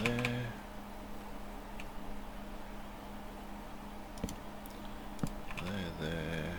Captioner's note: typing